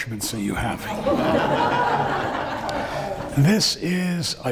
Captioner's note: laughing